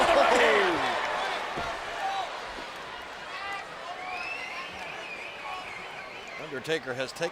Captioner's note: applause